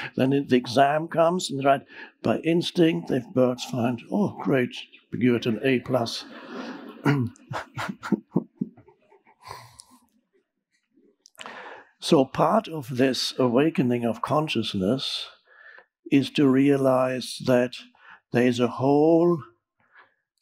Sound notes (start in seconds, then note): 5.3 audience chuckling; 5.4 Eckhart chuckling